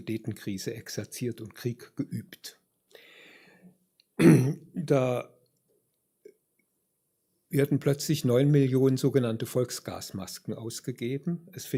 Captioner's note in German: räuspern